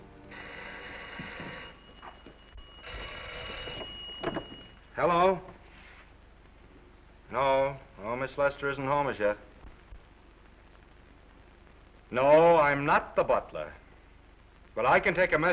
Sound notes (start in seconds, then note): 0.2 phone ringing